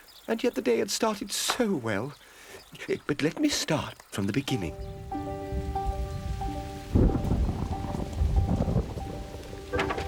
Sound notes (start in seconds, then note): 5.5 thunder crashes